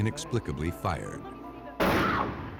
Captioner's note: gun shot